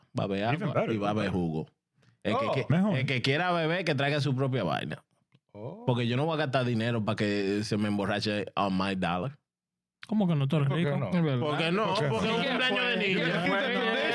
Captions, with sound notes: (Speaking In Foreign Language) You gotta keep the tradition.